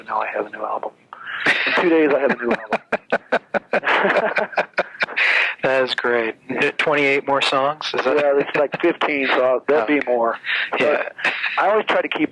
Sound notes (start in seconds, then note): 1.2 laughs